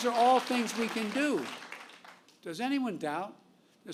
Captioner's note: applause